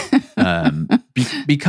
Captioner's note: laughs